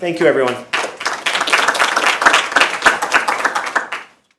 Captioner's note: group clapping